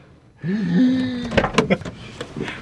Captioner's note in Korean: 놀람